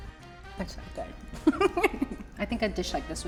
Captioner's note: laughs